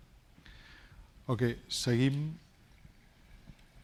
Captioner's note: speaking spanish